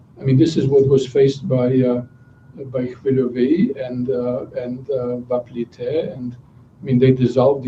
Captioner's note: non-english speech